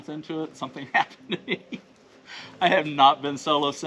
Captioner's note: laughing